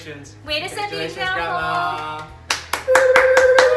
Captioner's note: speaking in a foreign language; clapping